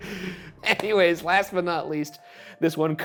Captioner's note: palm slapping